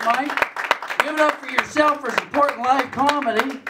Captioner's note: applause